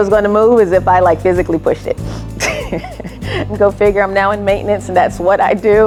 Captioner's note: laughter